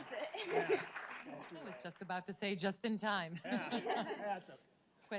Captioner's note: laughs